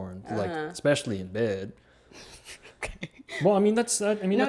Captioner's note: laughs